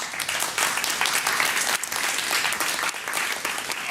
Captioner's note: applause